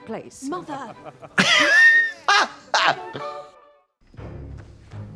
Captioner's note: blonde Women titter